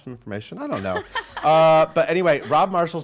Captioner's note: laughing